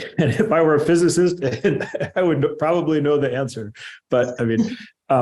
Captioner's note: laughter